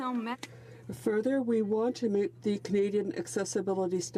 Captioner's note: speaking French